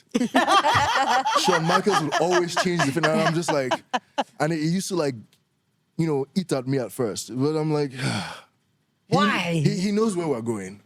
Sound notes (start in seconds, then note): 0.1 laugh; 7.9 sighs